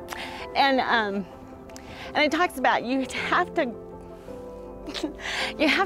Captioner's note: sniffs